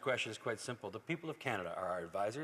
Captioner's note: speaking French